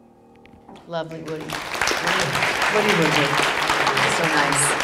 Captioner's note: audience applause